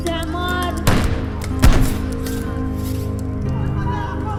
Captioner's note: guns firing